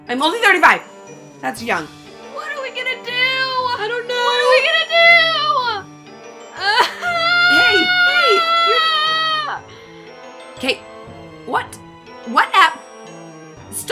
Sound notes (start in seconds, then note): 2.4 whimpers; 6.6 whimpers; 9.1 wails